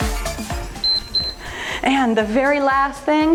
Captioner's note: timer beeps